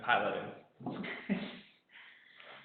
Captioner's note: laughing